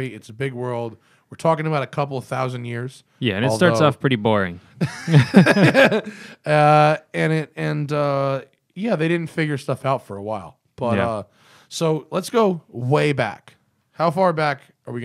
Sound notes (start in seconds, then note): 4.8 laughter